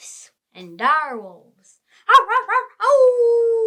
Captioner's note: howling like a wolf